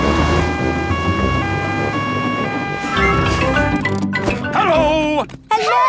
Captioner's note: siren wailing